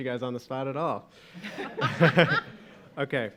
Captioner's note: laughing